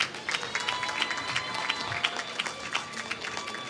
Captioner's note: applause